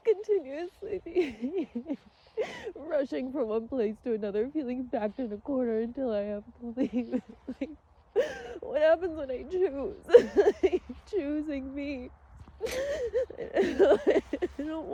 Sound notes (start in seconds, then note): 8.1 sobs viscerally; 12.5 sobs through words